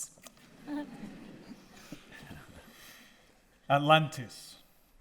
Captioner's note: audience laughing